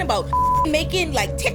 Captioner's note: beep